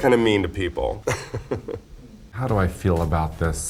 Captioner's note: Raja chuckles